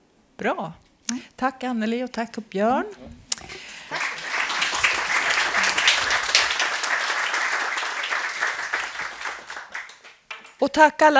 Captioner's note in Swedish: Applåder